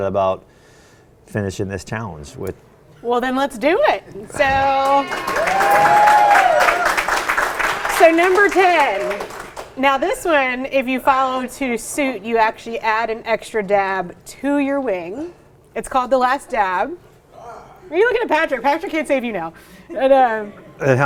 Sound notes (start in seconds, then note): 4.4 audience applauds